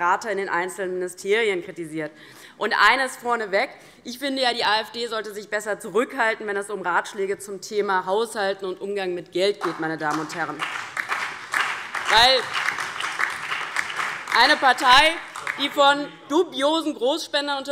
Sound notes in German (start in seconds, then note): 9.6 Beifall DIE LINKE